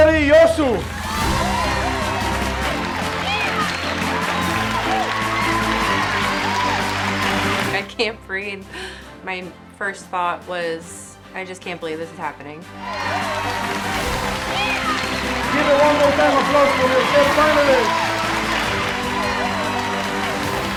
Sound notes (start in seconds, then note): 1.3 bright music; 2.8 audience applauding; 2.8 audience cheering; 12.8 audience applauding; 12.8 audience cheering